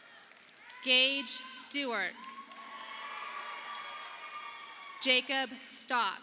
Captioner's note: audience applauding